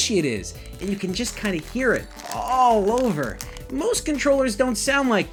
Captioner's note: controller crackling